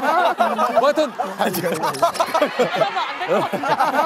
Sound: cracking up

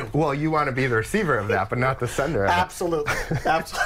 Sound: laughter

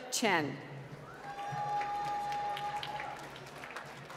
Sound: applause

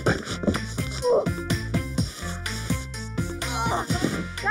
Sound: grunting

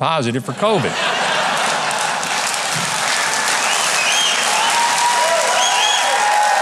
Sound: audience cheering and clapping

